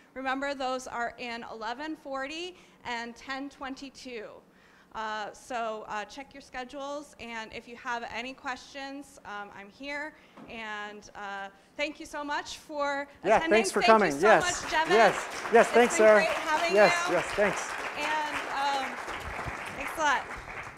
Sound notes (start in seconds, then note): 18.1 audience applause